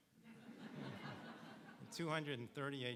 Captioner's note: audience laughing